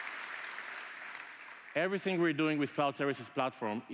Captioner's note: applause